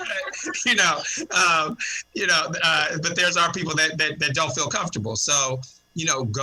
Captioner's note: laughter